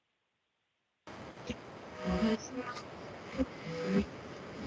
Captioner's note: static hissing